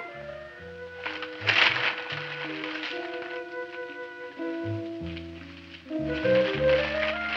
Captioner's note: bag rustling